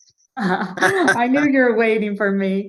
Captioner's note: both chuckle